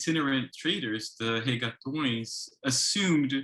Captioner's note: speaks in foreign language